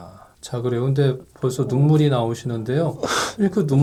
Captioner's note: bursts into tears as soon as he's hypnotized